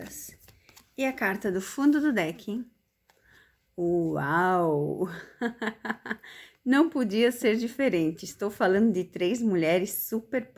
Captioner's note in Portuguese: risadas